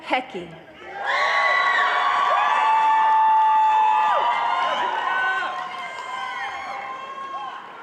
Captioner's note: audience cheering